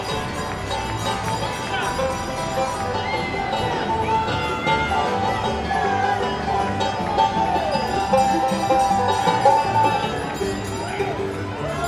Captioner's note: bells ringing; holiday music